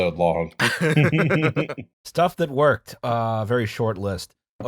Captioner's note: laughter